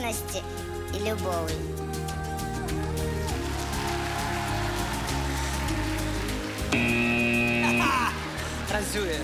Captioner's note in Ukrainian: оплески